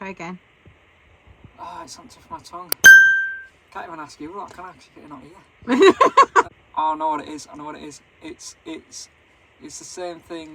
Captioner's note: laughing